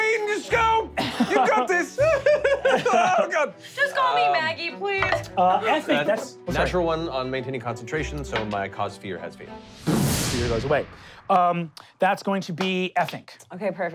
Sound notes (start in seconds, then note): 1.0 laughing; 9.8 exploding